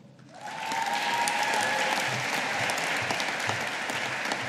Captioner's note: audience applauding